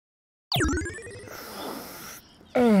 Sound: slurping

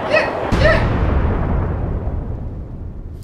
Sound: explosion sound

